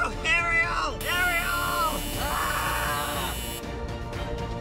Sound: screaming

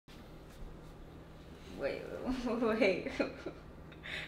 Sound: laughing

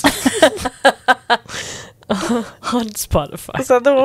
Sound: panel laughing

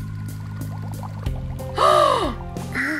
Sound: gasps

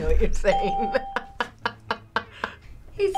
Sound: ding; laughs

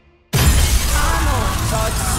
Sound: glass shattering

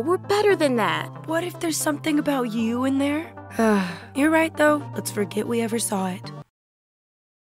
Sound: sigh

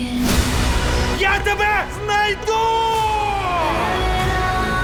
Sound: shouting

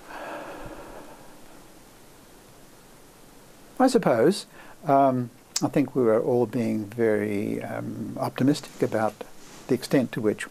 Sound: sigh

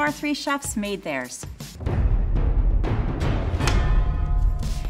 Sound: booming noises

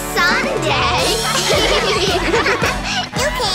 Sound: laughing

